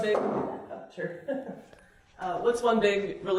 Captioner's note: laughs